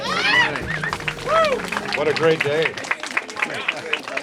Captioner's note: applause